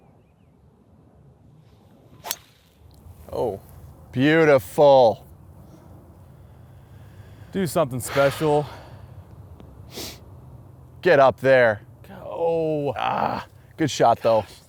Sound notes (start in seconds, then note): 12.8 groans